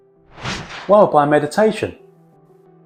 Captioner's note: air whooshing